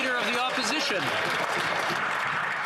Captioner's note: some Applause